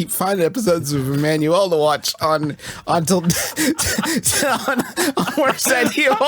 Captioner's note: laughs